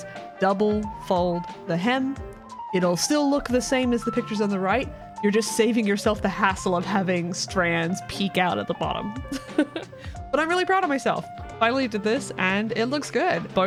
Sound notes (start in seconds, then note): 9.3 laugh